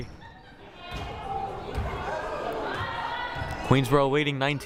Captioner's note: crowd murmuring